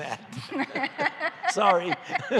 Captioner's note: laughter